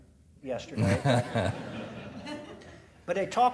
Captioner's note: audience laughing